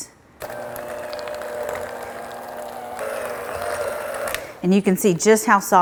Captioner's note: mixer whirring